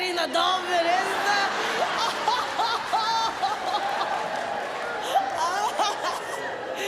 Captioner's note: audience laughs; comedian imitates laughter